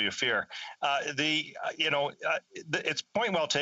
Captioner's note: chuckles